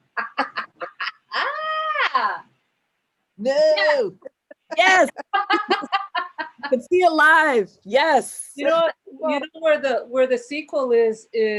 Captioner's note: laughing